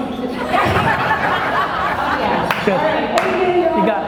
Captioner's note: laughter